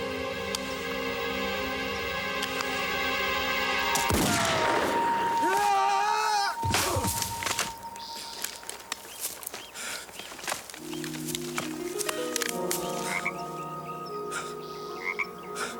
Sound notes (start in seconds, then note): 0.0 suspenseful music; 4.0 gun firing; 4.9 wailing; 6.6 thudding; 14.4 frog croaking